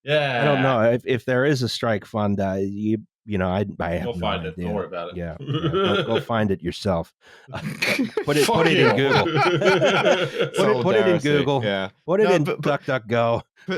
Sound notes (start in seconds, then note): 7.5 laughing; 7.6 laughter